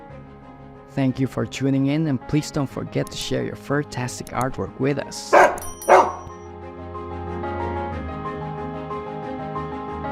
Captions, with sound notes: Thank you for tuning in, and please don't forget to share your furtastic artwork with us. (dog barking) (bright upbeat music)